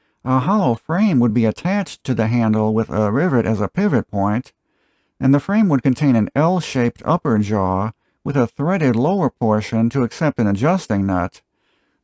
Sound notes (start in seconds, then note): none